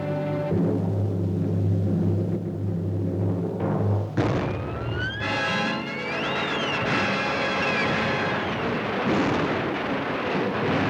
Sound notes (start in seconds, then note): 4.1 explosion booming; 5.4 dramatic music; 5.4 explosion booming